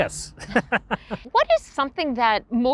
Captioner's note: laughs